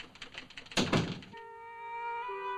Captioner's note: typewriter chattering; door closes; melancholy music